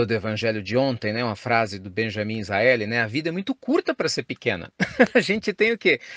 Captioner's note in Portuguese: Risos